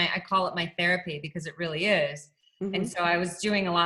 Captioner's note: laughs